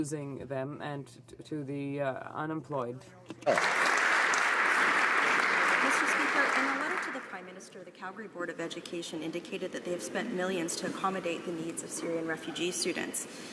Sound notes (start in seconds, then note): 8.6 some Applause